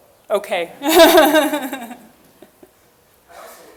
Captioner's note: laughing